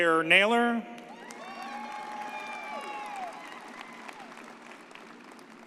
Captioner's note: audience cheers